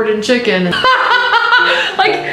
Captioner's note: she laughs